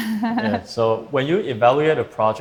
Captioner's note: laughs